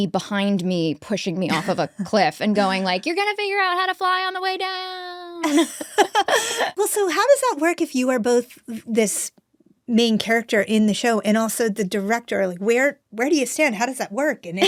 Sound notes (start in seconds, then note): 5.4 both laughing